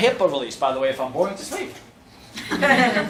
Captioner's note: laughter